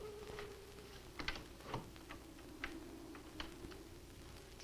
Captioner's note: door opens